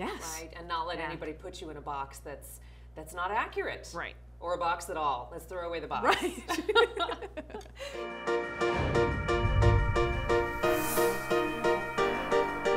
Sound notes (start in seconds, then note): 6.2 both laugh; 8.2 upbeat music